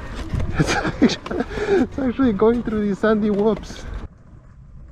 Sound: laughs

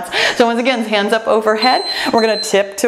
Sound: timer beeps

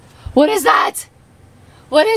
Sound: gasping

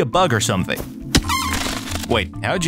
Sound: object cracking

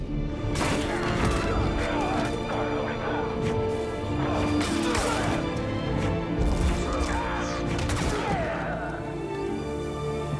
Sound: sounds of fighting below

